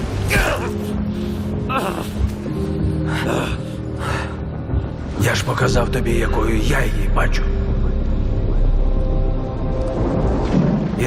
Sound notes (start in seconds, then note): 0.0 storm howling; 3.9 groaning